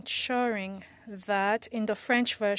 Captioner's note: speaking French